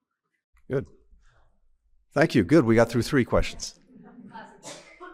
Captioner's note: laughter